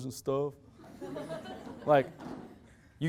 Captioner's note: loud laughter